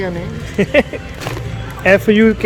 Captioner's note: laugh